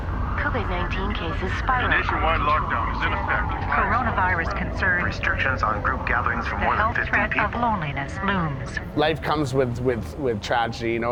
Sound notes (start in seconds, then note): 0.3 radio voices